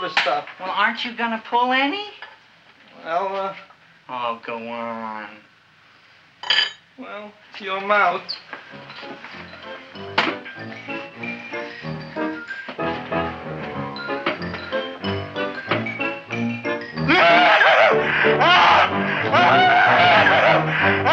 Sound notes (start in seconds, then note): 9.1 humorous music; 17.0 Wilbur screaming